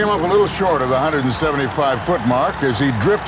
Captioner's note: voiceover